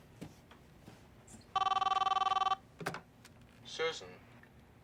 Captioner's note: phone rings